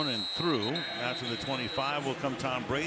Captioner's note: whistle